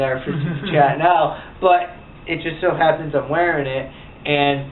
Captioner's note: laughs